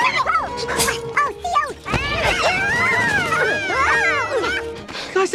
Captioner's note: all scream as they escape